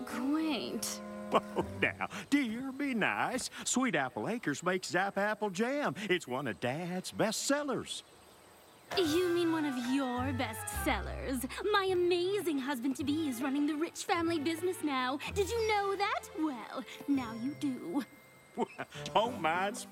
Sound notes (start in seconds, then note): 1.3 chuckles; 18.5 chuckles